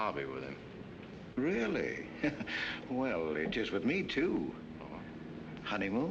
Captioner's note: chuckles